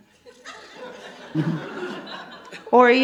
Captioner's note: audience laughs